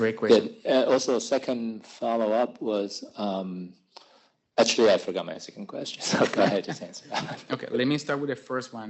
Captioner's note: laughs